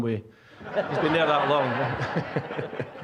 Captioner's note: audience laughing